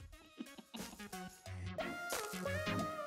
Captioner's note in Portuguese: com voz rouca